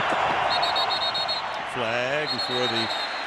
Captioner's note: whistle blowing